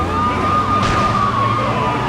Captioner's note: tires screeching; explosion